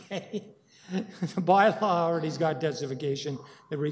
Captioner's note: chuckling